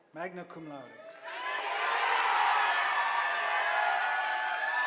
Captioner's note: audience applauding